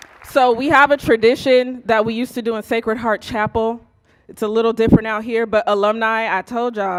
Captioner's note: applause